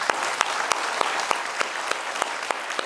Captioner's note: applause